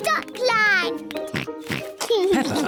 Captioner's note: oinks